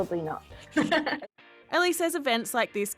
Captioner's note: laughs